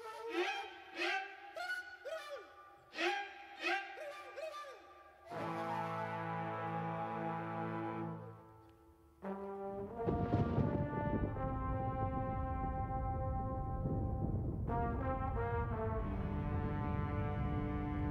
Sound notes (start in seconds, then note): 10.0 thunder rumbles